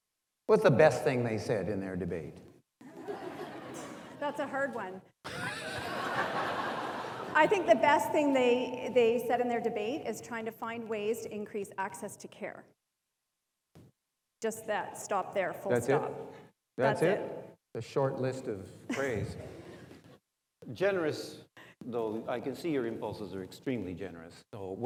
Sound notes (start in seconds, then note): 5.2 audience laughs